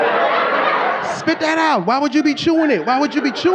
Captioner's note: audience laughing